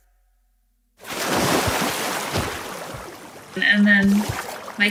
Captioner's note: water splashing